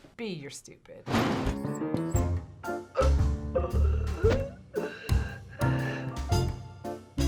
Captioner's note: man wheezing; playful intro